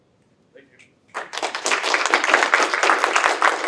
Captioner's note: applause